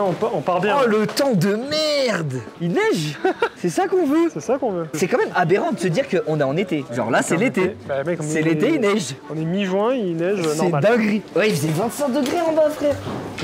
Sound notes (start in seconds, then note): 2.9 laugh